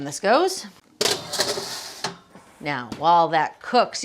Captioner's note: metal banging